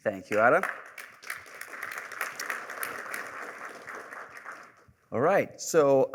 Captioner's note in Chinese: 掌声